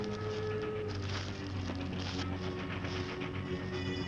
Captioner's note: soft dramatic music; train approaching; soft dramatic music